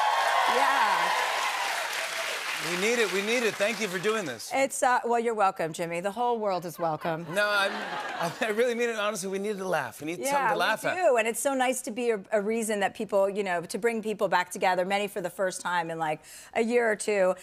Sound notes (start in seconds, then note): 6.8 laughter